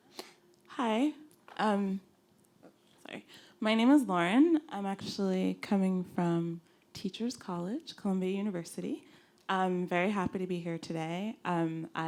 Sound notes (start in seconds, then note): 1.1 voiceover